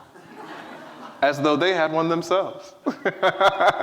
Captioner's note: laughs